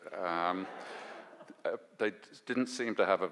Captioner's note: audience laughs